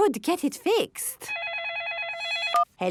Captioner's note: phone ringing